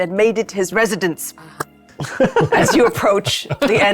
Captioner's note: players laughing